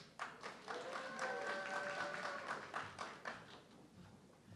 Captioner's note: audience clapping